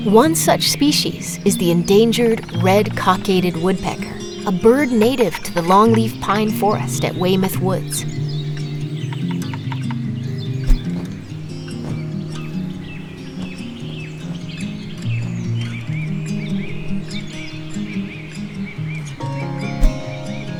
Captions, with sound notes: One such species is the endangered red-cockaded woodpecker, a bird native to the longleaf pine forest at Weymouth Woods. [birds chirping] [gentle music]